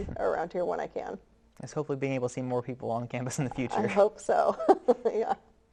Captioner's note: laughs